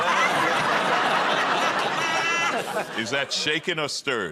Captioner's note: laughter